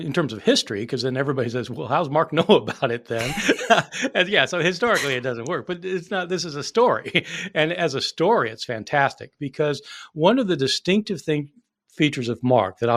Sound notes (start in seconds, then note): 2.4 chuckling; 7.0 chuckling